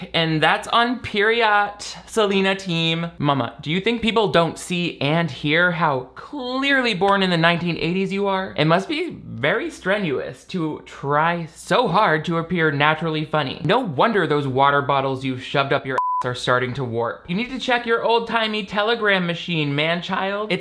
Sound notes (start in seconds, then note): 15.9 beep